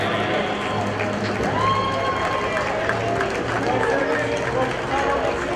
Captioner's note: audience cheers